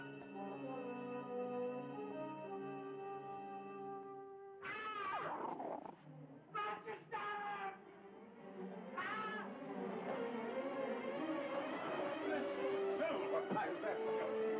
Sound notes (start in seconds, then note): 4.6 screaming